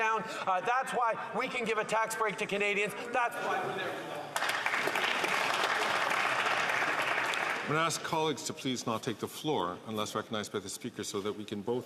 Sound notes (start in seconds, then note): 7.9 some Applause